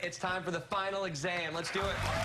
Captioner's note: cheers and applause